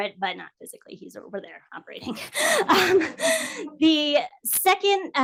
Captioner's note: laughs